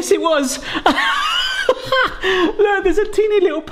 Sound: laughs

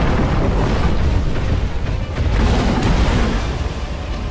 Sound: wood crashing

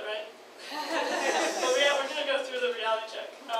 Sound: audience laughs

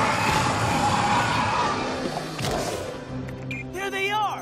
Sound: growling

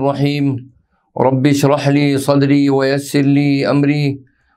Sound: arabic

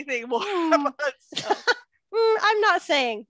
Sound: laughter

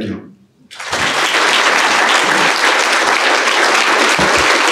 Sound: applause

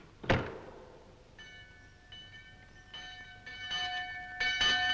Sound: bell ringing

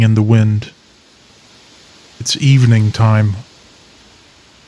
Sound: sound of corn leaves rustling in wind

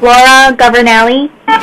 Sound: beeping

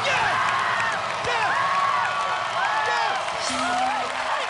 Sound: cheers and applause

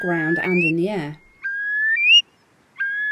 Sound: calls

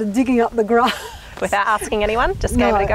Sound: chuckles

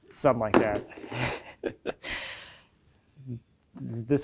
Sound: laughing

